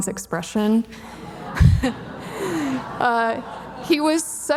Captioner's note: audience laughing